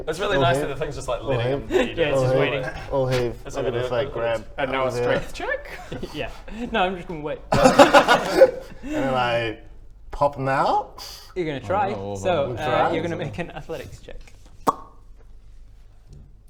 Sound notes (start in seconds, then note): 7.4 laughs; 14.6 pop